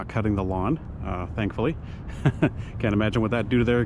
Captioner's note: laughs